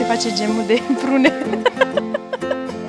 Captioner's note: laughing